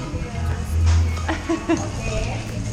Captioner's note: laughing